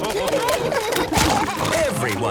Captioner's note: splashing